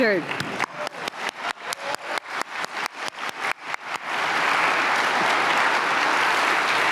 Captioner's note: applause